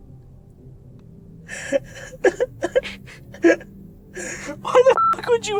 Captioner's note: cries